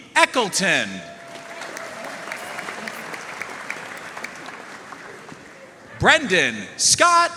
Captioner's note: audience cheering and applauding